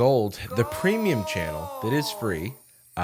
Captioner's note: disembodied voice